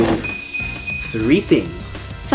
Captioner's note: bell dings three times